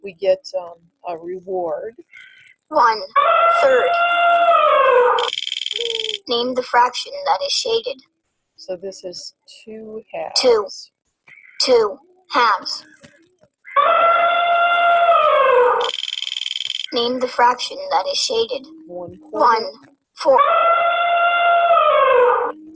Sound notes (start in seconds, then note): 2.9 voiceover; 3.2 elephant trumpeting; 5.7 voiceover; 10.7 voiceover; 13.7 elephant trumpeting; 15.8 wheel clicking; 17.1 voiceover; 20.4 elephant trumpeting